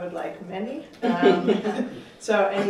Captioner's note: laughter